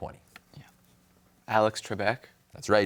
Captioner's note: whispers